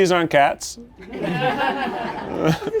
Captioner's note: people laughing